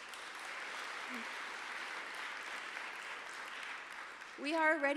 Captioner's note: audience applauds